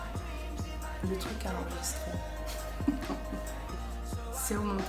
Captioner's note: funny laugh